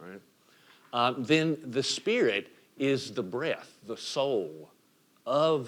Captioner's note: breath